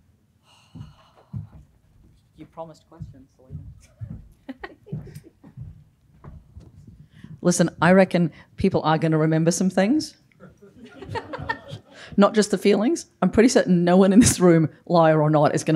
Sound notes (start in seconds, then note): 4.4 laughing; 10.4 laughter